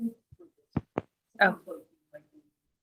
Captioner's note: mic thuds